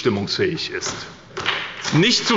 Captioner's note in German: Beifall bei der SPD und bei Abgeordneten des BÜNDNISSES 90/DIE GRÜNEN